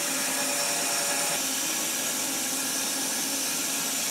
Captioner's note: saw whirring